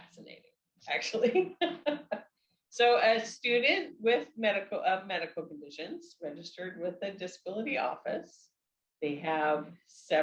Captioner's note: laughs